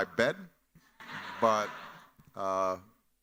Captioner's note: chuckles